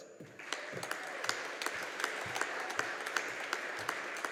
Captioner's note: audience applauding